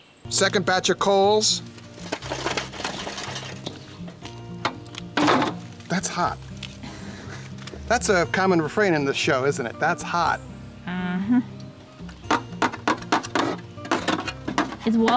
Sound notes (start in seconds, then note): 1.6 clatters; 12.1 banging